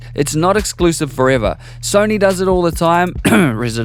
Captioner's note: cough